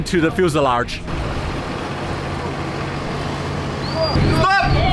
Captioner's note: bus engine roaring